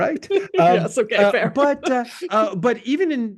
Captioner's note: laugh